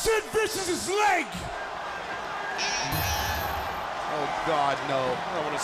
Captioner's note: crowd chatter